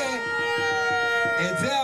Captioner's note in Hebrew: קריאות הקהל